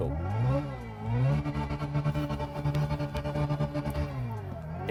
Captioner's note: higher pitched revving